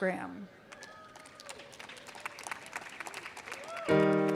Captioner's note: applause